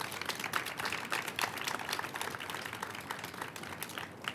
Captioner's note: applause